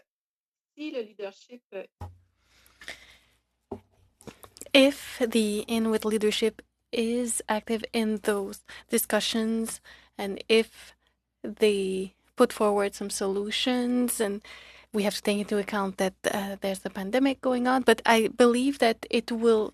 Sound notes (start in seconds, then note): 6.5 speaking in French